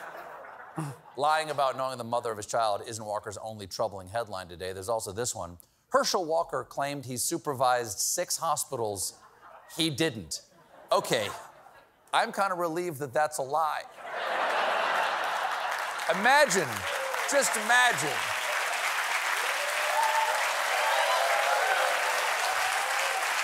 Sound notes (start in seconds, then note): 13.9 laughter; 19.6 cheers and applause